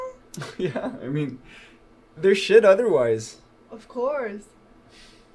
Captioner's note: laughs